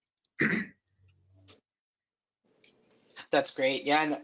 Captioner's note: clears throat